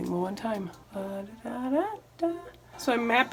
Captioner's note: humming